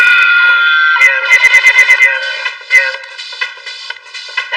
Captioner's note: cheering